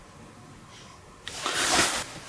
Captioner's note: hiss noise